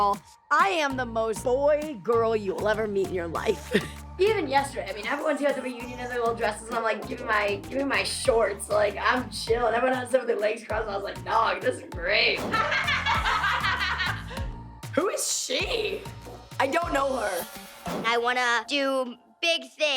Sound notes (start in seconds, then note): 12.4 laughter